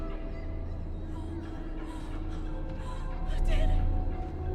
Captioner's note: eerie music; Bryn gasping